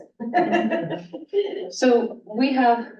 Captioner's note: laughs